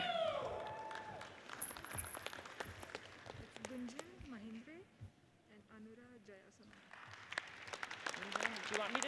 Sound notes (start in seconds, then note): 0.0 audience cheers and applauds; 4.0 people chattering; 6.8 audience applauds